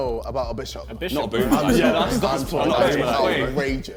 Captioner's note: men chattering